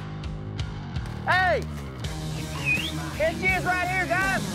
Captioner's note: whistles